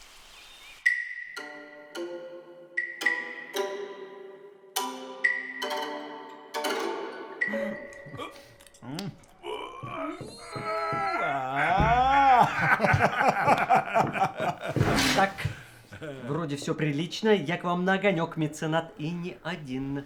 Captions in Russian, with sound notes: (СТРАННАЯ РВАНАЯ МУЗЫКА) (КРЯХТЕНЬЕ) Ааа! (СМЕХ) Так. Вроде всё прилично. Я к вам на огонёк, Меценат. И не один.